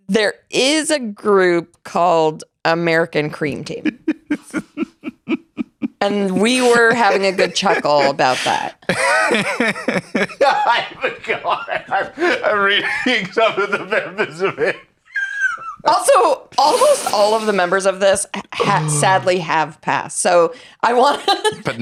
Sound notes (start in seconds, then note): 4.3 laughing; 9.5 laughing